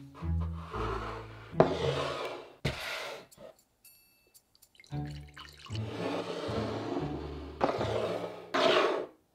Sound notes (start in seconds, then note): 4.6 liquid pouring